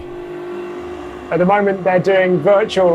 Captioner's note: engine revving